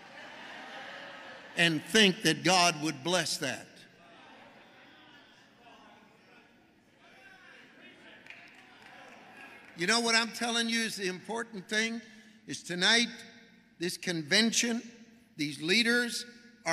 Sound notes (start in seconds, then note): 0.0 congregation shouting; 4.3 congregation chatting